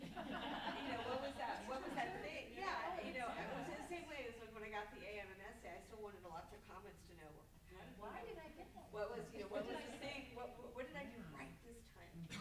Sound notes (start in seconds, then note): 0.0 group laughs; 5.5 stammers; 8.1 group laughs